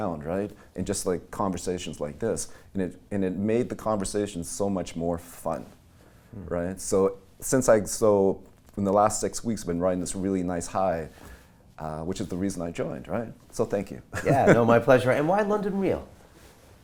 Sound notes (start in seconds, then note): 14.2 laughing